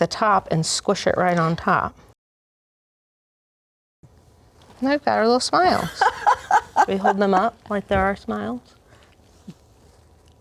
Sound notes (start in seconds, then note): 5.7 laughs